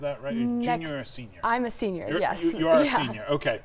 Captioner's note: laughs